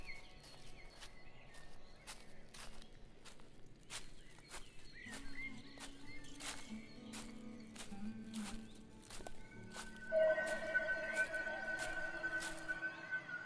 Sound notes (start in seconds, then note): 2.6 leaves rustling; 10.3 disorienting music